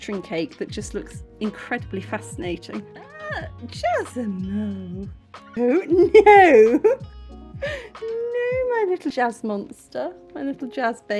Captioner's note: laughing